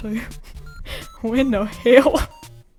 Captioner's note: laughs; laughs